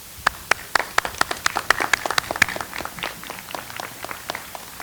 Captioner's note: audience applauds